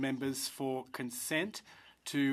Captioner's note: speaking in french